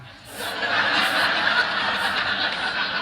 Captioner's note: laughter